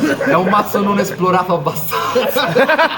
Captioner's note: chuckles